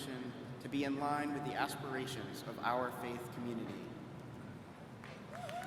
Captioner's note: applause